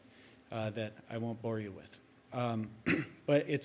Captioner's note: clears throat